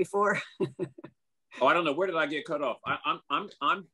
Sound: laugh

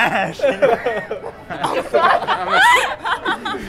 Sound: laughs

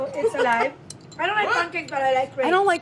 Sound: laughing

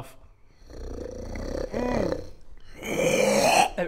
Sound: unhappy growling that's definitely 100% fine

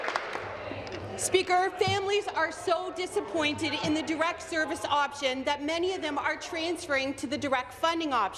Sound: applause

